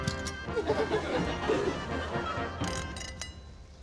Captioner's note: laughter